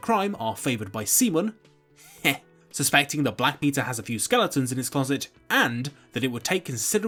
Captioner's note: heh